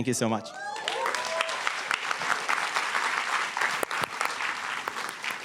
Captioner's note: applause